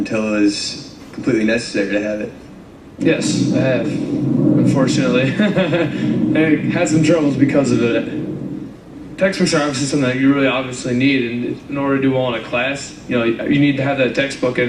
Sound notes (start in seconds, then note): 5.1 laughs